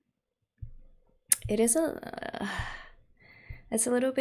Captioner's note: sighs